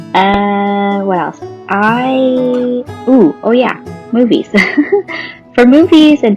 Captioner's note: laughs